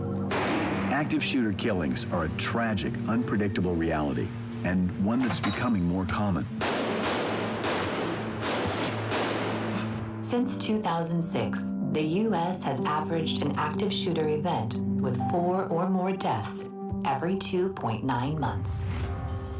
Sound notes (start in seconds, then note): 0.3 gunshot; 6.6 gunshots